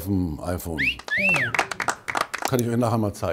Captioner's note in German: Pfiff